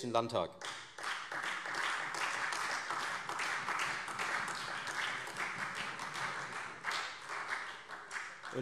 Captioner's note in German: Beifall Freie Demokraten, vereinzelt SPD und AfD